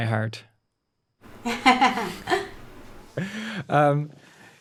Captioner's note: laughs